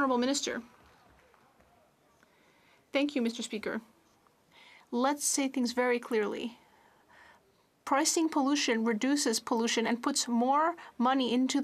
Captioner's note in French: applaudissements